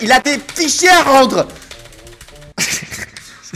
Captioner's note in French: rire